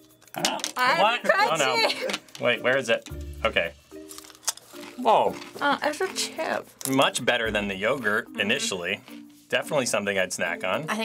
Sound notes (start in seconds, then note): 4.0 crunching